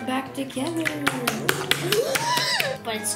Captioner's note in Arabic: بصوت عال، الصفع الرطب; صيحات